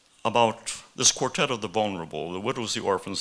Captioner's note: none